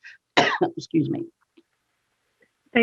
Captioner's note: coughs